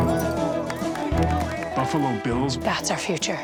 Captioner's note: crowd cheers; clay pigeon explodes